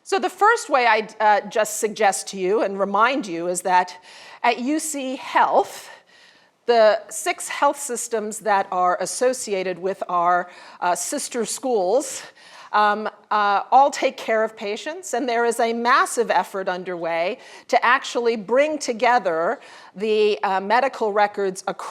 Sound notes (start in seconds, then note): none